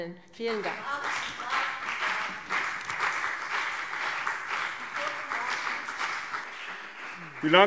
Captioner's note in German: Beifall CDU und BÜNDNIS 90/DIE GRÜNEN